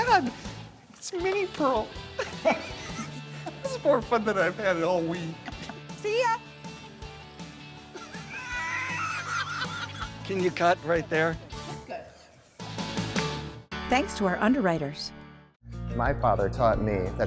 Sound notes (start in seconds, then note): 7.9 laughing; 13.1 hands clap